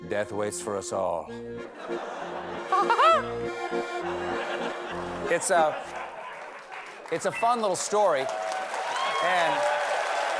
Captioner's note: laughter; applause